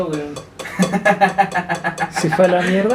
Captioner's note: laughs